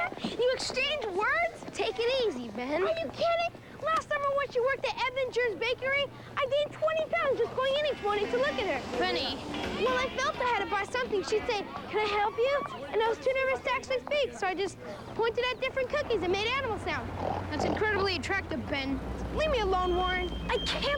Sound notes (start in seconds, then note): 16.9 grunting like a pig